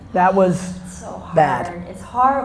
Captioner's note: sighing